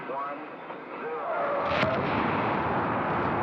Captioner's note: rocket firing